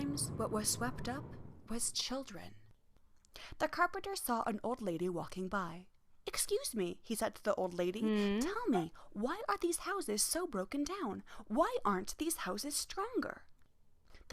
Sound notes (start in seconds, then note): 8.0 old lady hums back a questioning response